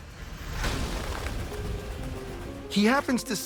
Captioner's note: wings flapping